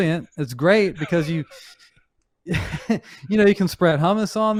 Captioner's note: chuckles